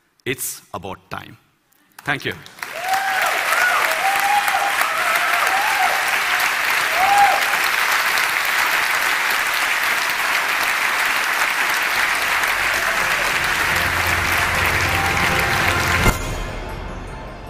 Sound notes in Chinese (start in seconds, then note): 3.0 Applause; 3.7 掌聲